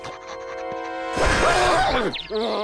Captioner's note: furious whirring; groaning